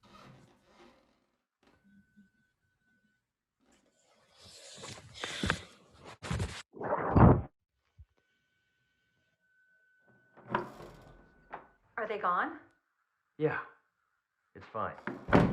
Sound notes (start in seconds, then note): 10.3 door opens; 15.0 door closes